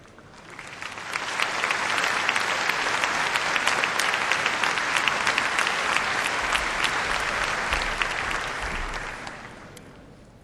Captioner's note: applause